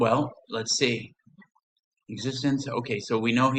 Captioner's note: silence